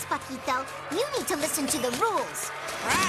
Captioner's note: squawking